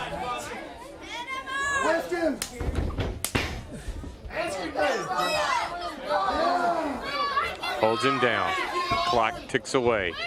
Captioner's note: crowd chatter